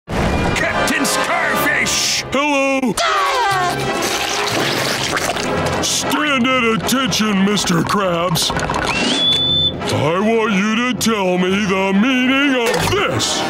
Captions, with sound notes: -Captain Scarfish! -Hello. [screaming] Stand at attention Mr. Krabs. I want you to tell me the meaning of this!